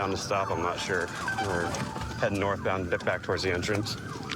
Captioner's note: sirens blaring